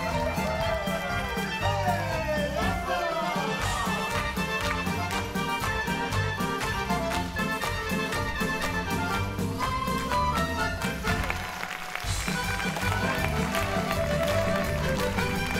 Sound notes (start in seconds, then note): 0.0 dancers cheering; 14.1 audience clapping